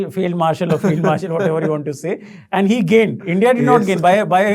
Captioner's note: laughing